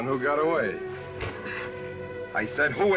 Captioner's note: sighs